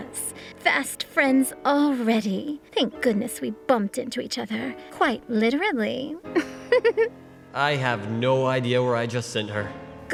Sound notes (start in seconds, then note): 6.3 laughter